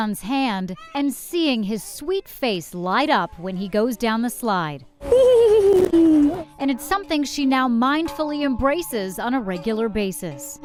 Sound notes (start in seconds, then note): 5.0 giggles